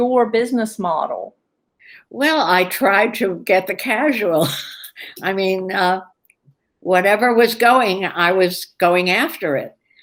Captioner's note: laughs